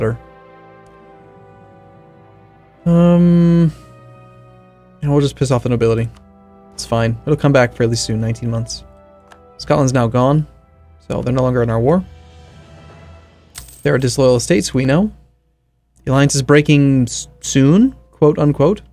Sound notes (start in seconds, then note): none